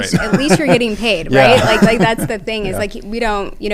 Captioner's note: laugh